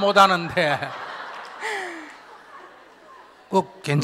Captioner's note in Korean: 스님과 질문자, 청중 웃음